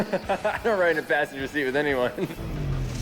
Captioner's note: laughs